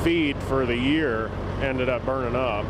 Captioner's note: sound of trucks